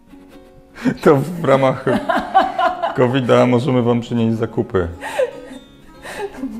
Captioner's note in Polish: śmiech